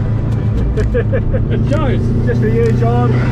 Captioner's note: laughing